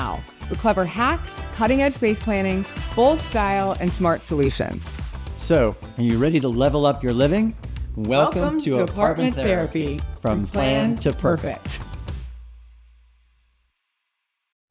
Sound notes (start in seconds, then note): 7.7 in Unison; 12.3 upbeat music fades